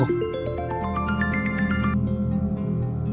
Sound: phone ringing

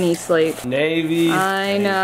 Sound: plastic rustling

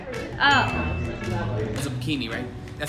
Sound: bell rings

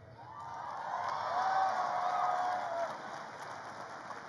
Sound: crowd cheers

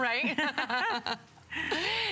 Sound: laughter

